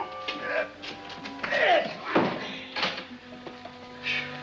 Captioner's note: chest bangs down; groaning